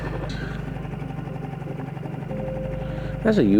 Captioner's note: boat motor hums